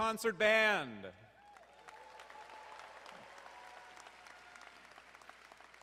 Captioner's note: audience applauding